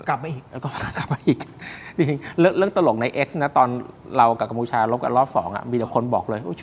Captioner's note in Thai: เสียงหัวเราะ